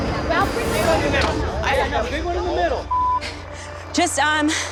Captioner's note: crowd chattering